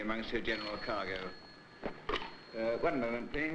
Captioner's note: phone ringing